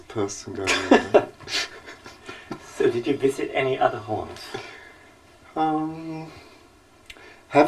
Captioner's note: laughter